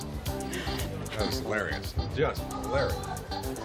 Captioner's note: laughs